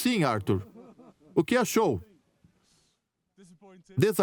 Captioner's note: photographers laughing; voiceover